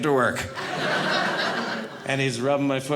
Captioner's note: audience laughing